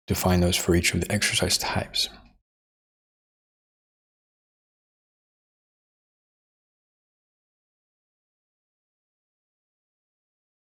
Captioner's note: silence